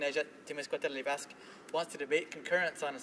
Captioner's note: speaking French